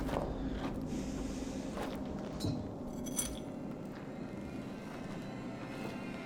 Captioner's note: footsteps